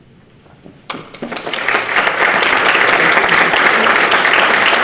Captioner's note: participants clap